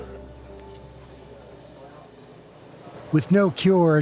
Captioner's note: machine beeps